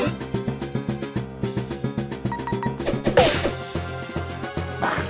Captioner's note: snort